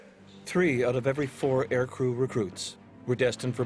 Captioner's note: voiceover